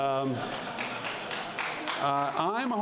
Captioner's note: laughter